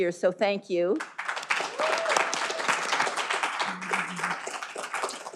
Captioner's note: all applauding